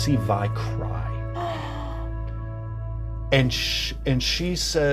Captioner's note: Certainty gasps